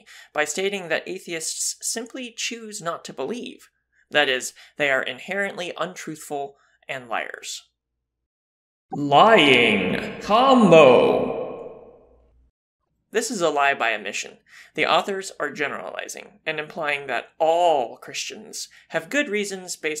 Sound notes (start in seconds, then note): 9.0 voiceover